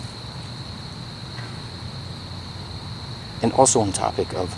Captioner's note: frogs croaking